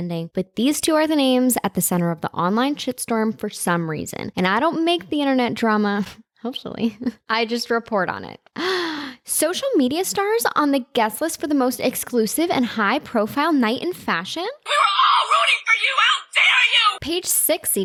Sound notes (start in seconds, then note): 8.6 gasp